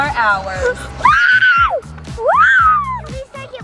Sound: screams

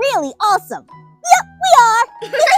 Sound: laughs

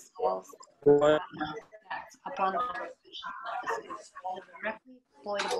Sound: static crackling

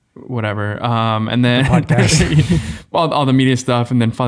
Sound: group laughing

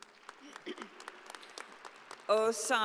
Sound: audience applauding

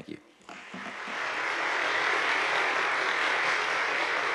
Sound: audience applauding

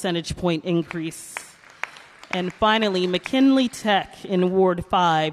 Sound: applause

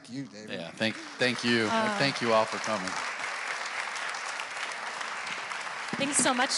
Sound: audience applauds

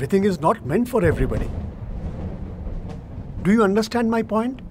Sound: thunderclap

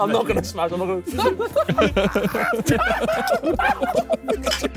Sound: men laughing

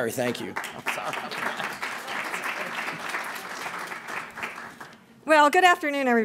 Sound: applause

